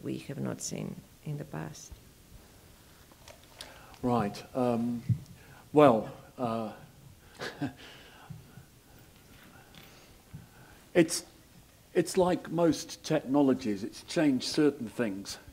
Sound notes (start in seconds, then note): 7.3 laugh